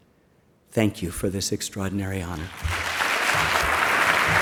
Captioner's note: applause